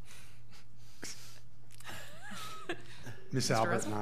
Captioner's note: laughs